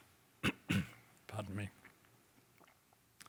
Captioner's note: coughs